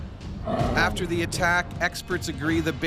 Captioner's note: voiceover